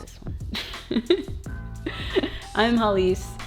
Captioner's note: laughs